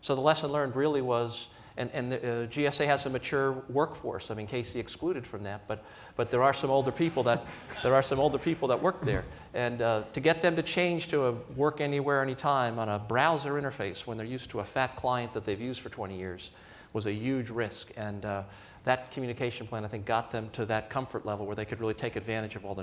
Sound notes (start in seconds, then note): 6.9 laughter